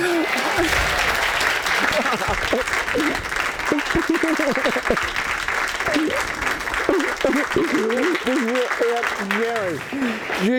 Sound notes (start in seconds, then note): 0.3 audience applauding; 2.1 both laughing